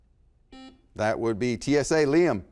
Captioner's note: beep